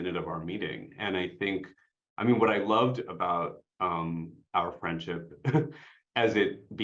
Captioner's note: chuckles